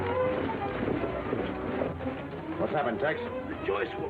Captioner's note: intense music; horses galloping